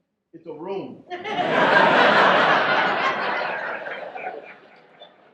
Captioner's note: audience laughs